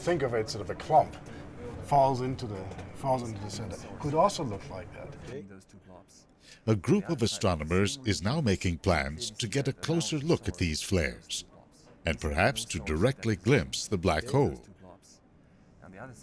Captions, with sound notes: think of it, sort of a clump falls into the center, could also look like that. - [Voiceover] A group of astronomers is now making plans to get a closer look at these flares and perhaps to directly glimpse the black hole.